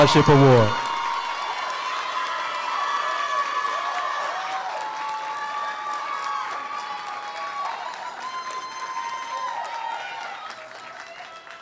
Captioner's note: applause